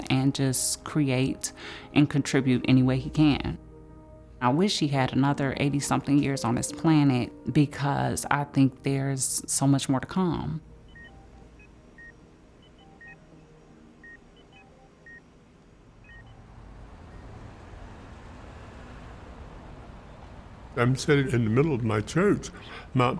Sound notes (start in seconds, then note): 11.0 medical monitor beeping; 16.9 wind whooshing